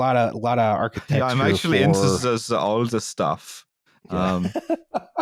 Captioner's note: German accent; laughs